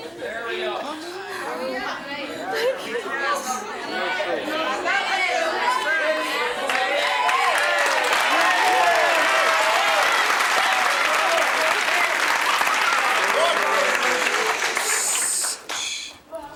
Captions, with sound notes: - Marry him. - Come on, hurry up. - I can't. (crowd chatter) (cheering) - I have a boyfriend.